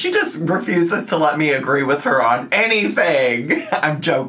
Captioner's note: laughs